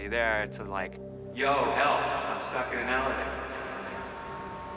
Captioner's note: echoing